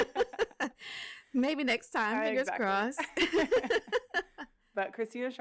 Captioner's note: laughter; laughter